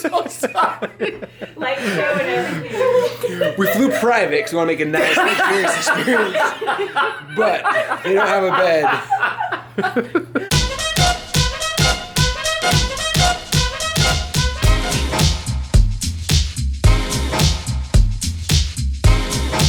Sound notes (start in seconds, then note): 9.1 all laugh; 10.8 swing music